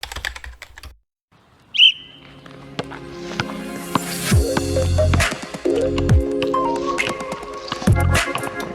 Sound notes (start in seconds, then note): 0.0 typing sound; 4.3 uplifting music